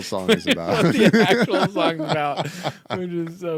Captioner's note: laughing